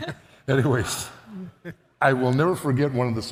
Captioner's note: all laugh